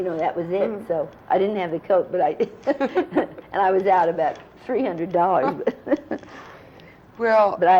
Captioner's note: laughter